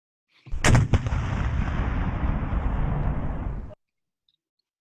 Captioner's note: boom of heavy gun